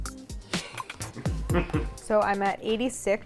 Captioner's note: laughs